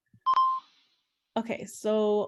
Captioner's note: beep